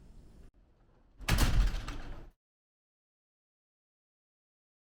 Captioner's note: door clicking